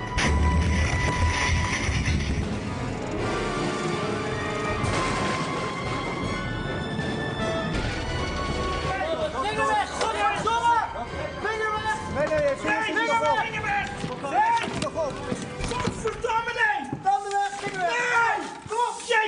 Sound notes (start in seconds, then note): 9.4 shouting and swearing